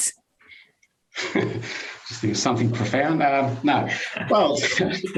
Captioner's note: laughs